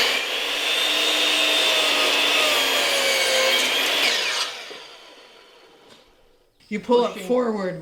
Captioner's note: chop saw cutting noise